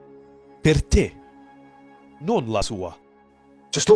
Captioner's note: renzo speaks italian